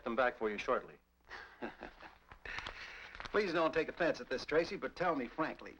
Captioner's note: chuckles